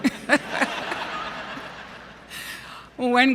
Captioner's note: laughter